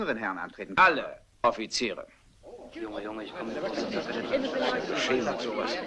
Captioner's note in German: Gemurmel